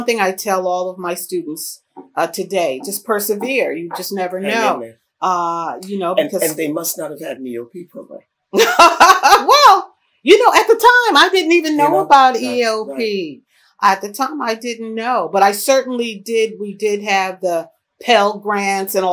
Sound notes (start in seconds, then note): 11.7 laughs